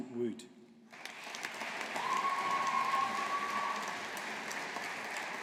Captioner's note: audience applauding